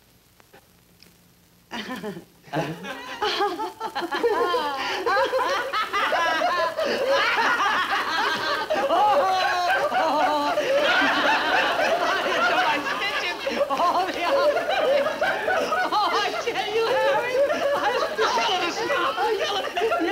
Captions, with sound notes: (Joan chuckling softly) (Joan and Joe chuckling) (all laughing) - Oh, my, I'm stitches! (laughing) Oh, I tell you, Harry! (Joe and Harry laughing)